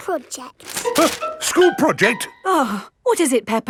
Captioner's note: gasps; sighs